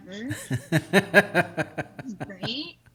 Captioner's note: laughing